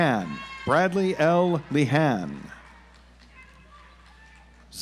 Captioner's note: audience applauds